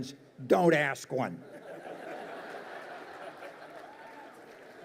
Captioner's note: audience laughs